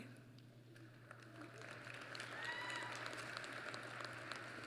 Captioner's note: applause